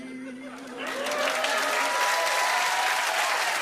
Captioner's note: cheers and applause